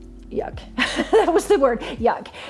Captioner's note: laughing